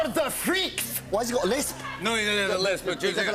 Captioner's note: Scottish accent; normal voice